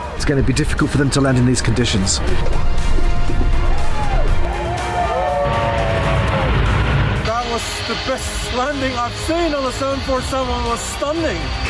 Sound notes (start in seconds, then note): 3.6 cheering